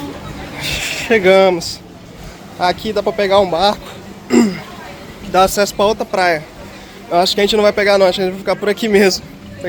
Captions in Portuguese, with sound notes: Chegamos. Aqui dá para pegar um barco [limpando a garganta] que dá acesso para outra praia. Eu acho que a gente não vai pegar não, acho que a gente vai ficar por aqui mesmo, para